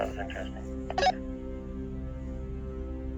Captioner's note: radio chirping; suspenseful music